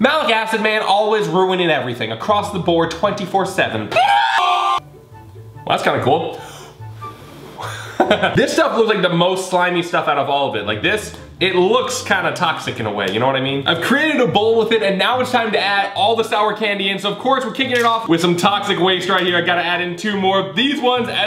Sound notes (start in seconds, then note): 3.9 screaming; 6.3 blowing; 7.6 laughing